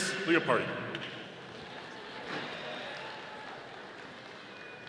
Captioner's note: audience applauding